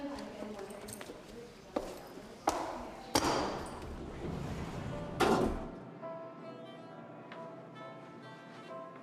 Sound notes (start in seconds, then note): 2.9 metal clanking; 3.8 elevator door buzzes